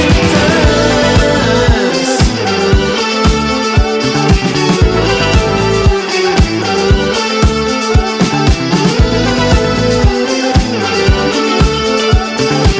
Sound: vocalizing

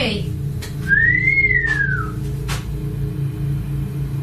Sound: whistling

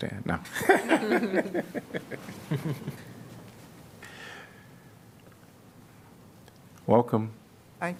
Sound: laughter

